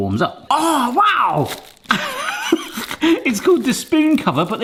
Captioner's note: laughing